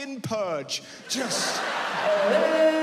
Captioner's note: yelling quickly